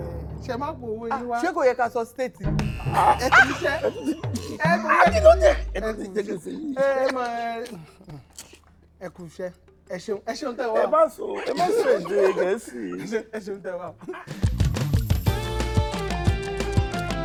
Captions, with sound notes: I hope you brought your ATM card. We're not allowed to say the word "State"? (Buzzer pressed) (Laughs) Well done. Thank you. Thank you for coming. Don't you know you're not supposed to speak English? Thank you for joining us.